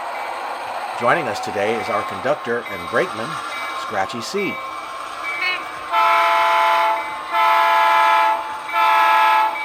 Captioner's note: meow